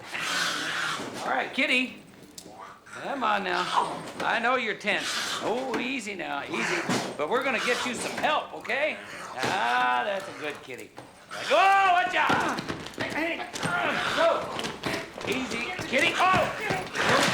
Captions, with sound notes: (hissing) All right, kitty. Come on, now. I know you're tense. Oh, easy now, easy. But we're going to get you some help, okay? Ah, that's a good kitty. Oh! Watch out! Hey! Joe! Easy. Kitty. Oh!